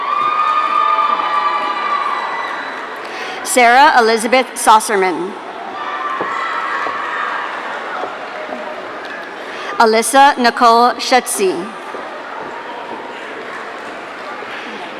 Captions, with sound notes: (audience cheering) Sarah Elizabeth Saucerman. (audience cheering) Alyssa Nicole Shutsy. (audience cheering)